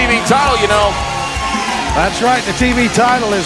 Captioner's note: crowd cheering